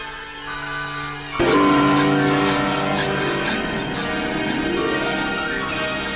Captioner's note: sawing